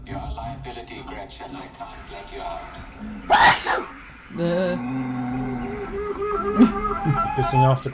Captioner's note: creaky door; sneeze